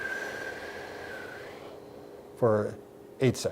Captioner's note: whoosh sound